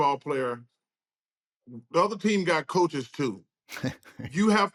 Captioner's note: chuckles